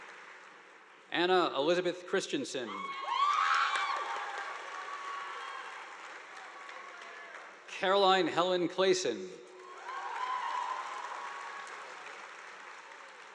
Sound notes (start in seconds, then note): 2.8 students cheering; 3.1 audience applauding; 9.6 audience applauding